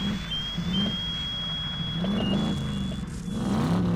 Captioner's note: whistle; alarm; loud engine acceleration